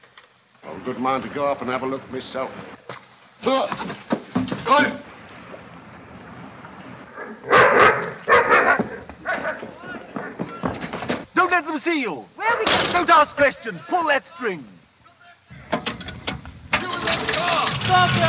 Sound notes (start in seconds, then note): 7.1 towser barks